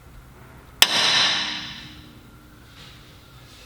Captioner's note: hammering